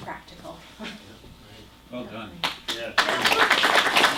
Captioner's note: applause